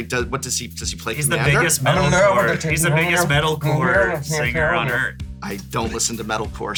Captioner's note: mocking metal noises